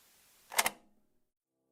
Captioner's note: click